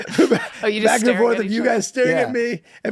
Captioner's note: group laughs